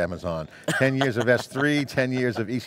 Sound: laughing

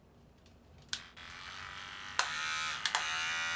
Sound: buzzing

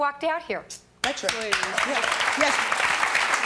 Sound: clapping

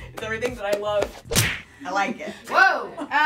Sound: smack sound

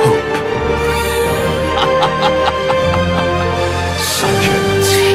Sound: evil laughter

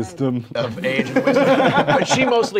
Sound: laughing

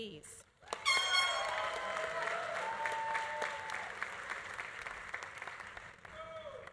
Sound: audience cheering; audience applauding

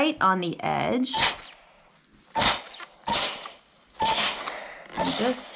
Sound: steam iron whooshing

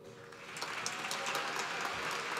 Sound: applause

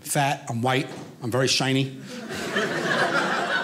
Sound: audience laughing

